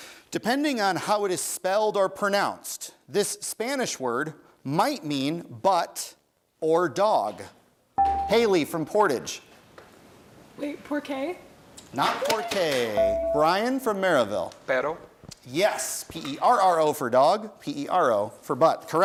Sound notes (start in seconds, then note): 8.0 bell rings; 12.9 bell rings